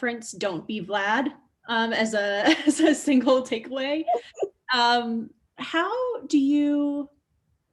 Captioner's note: laughs